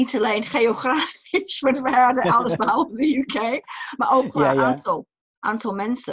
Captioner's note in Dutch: lacht